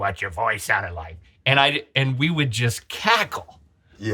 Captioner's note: smoker voice